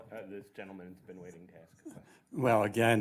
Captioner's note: voiceover